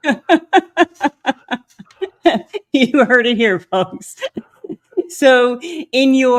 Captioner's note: laughs